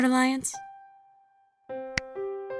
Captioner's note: smack